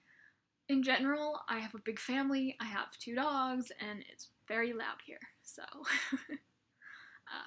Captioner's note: laughs